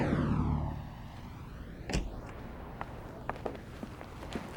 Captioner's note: motors running; distant slamming; footsteps